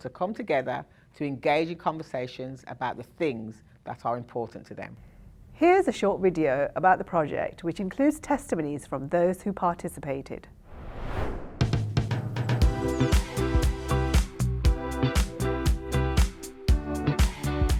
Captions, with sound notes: to come together to engage in conversations about the things that are important to them. - Here's a short video about the project, which includes testimonies from those who participated. (screen swooshing) (bright upbeat music)